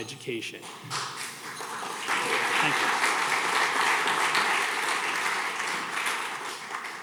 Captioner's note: audience clapping